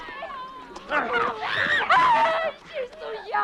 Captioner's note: both grunting